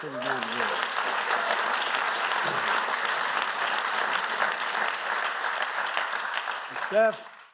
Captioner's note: applause